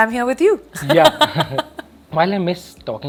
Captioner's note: laughs